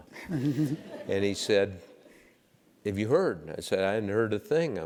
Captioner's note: laugh